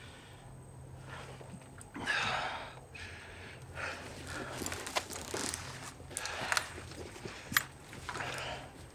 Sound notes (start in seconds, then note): 1.9 Brown sighing